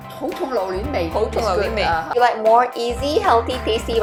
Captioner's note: Cantonese